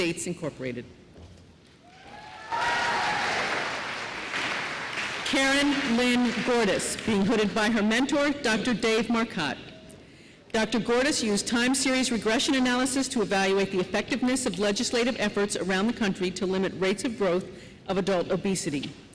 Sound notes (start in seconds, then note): 2.1 applause